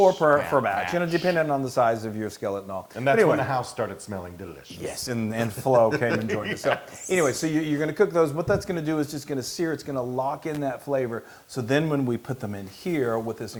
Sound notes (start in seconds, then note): 5.6 laugh